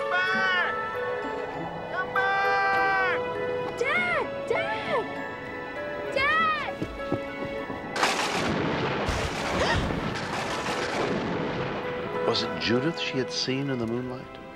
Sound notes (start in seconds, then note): 8.0 thunder booms; 9.5 gasping